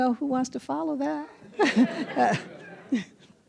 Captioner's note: laughter